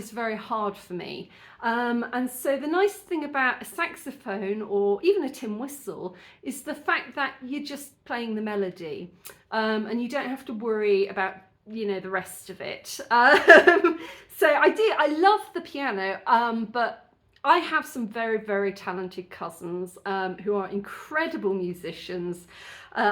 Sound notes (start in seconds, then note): 13.3 laughing